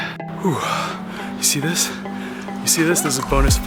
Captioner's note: exhales